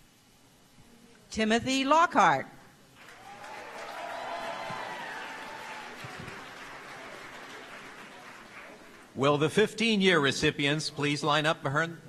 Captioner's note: applause